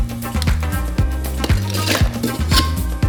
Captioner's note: ice crashing